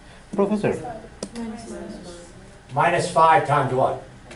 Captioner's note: class chattering